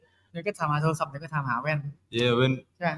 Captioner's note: in Thai